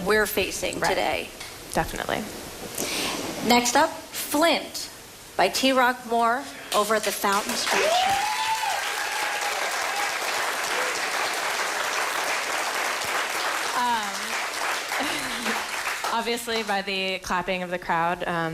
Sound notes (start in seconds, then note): 13.3 applause